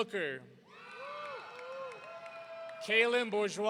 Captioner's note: audience cheering